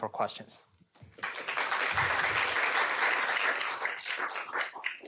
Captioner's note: applause